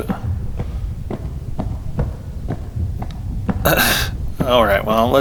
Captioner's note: coughs